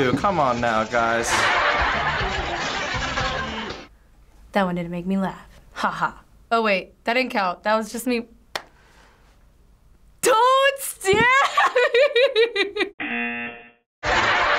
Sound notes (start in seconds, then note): 8.5 claps; 11.2 laughs; 13.0 buzzer